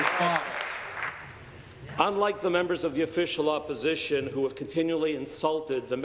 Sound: applause

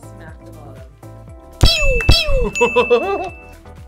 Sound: wrapper squeaks; bell rings; laughs

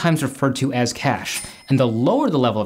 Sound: cash register chime

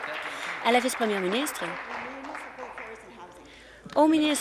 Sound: applause

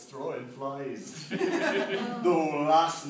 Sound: laughter

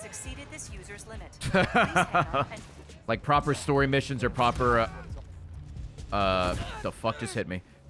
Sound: laughs

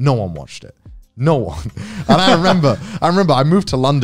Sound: laughs

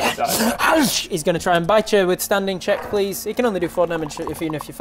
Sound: nom

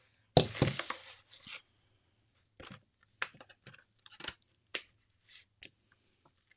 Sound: brayer thuds; paper rustles

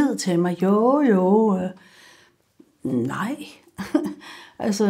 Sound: chuckles

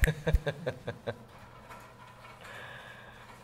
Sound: laughs

